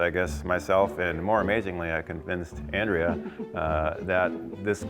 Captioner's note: chuckles